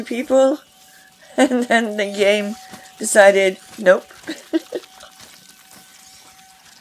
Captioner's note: laughs